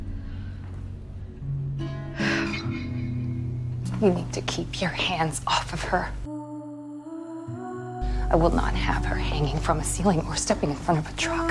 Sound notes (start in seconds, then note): 1.7 June exhales